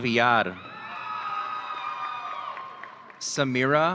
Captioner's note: audience cheering